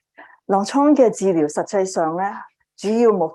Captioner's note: speaking chinese